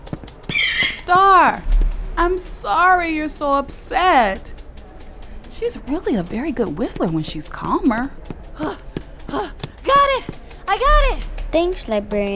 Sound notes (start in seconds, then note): 0.0 running footsteps, flapping sounds continue; 9.2 panting